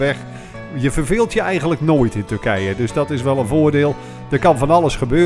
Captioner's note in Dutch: Voiceover